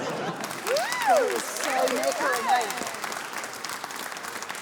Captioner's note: cheering, applause